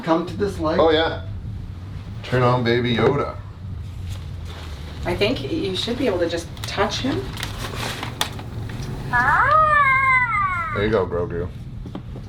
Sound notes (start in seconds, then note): 8.4 toy clacks; 9.1 toy coos